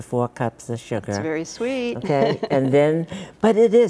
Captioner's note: laughs